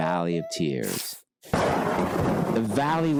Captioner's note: thunder crashes